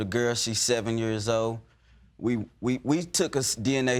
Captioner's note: stammering